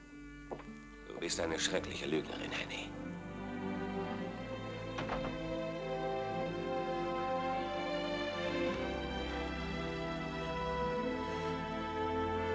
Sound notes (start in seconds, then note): 4.8 door clicks; 7.1 melancholic music